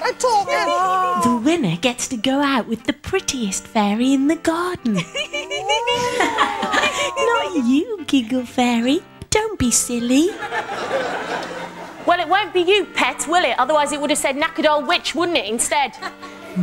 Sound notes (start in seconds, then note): 4.9 all three of them laughs; 4.9 laughs